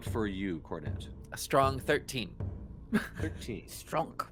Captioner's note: laughs